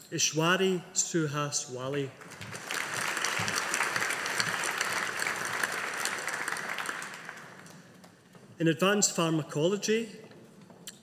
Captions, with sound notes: Ishwari Suhas Wale. (AUDIENCE APPLAUDING) In Advanced Pharmacology.